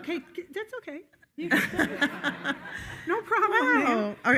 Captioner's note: attendees laughing